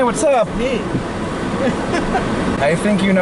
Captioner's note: laughing